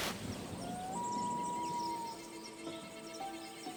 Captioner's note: birds singing; gentle instrumental music